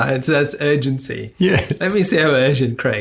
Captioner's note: laughs